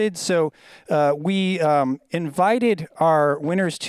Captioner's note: none